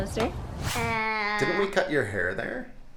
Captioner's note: wooshing